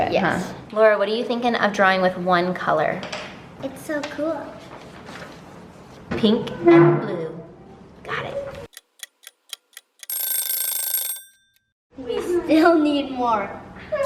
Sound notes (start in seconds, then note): 8.7 clock ticks; 8.8 alarm rings